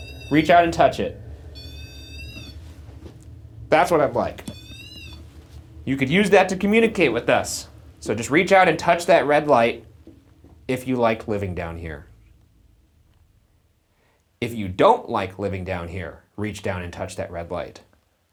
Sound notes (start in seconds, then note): 0.0 REM-Pod beeps; 4.4 REM-Pod beeps